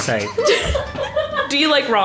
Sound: laugh

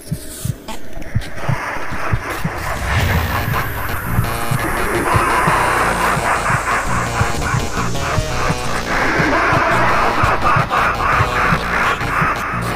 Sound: maniacal Laughing

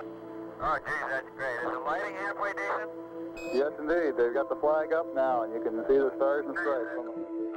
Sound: astronauts talking in radio

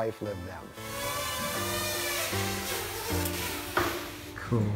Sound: drone zooming

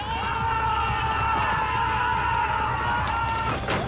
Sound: yells

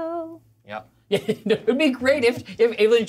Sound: co-hosts laughing

